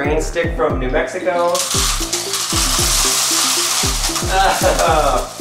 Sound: pebbles spilling

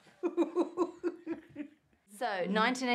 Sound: laughs

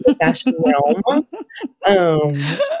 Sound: laughs

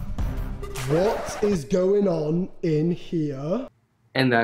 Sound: record scratch

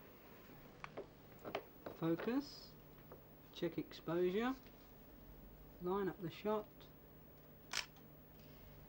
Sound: camera clicks

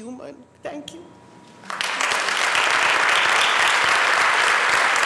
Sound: applause

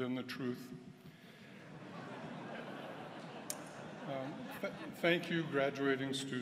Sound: laughter

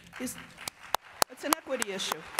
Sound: applause

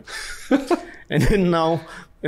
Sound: laughs

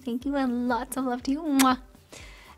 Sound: blows a kiss

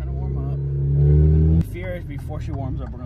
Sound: engine revving

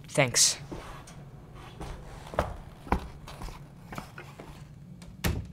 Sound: footsteps Walking Away

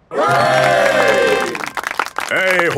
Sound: clapping

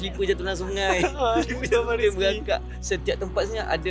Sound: laugh

